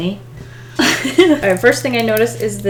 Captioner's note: laughs